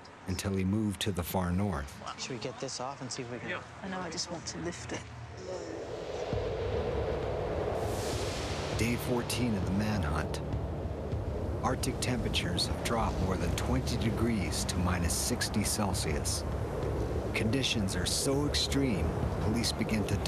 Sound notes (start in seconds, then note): 5.6 suspenseful music; 9.0 voiceover